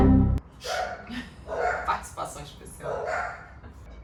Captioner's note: dog barking